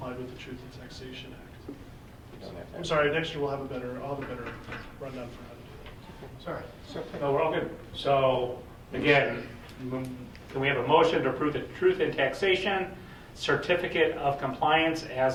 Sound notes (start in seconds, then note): 5.6 faintly speaking